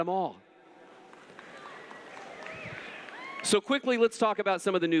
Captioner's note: applause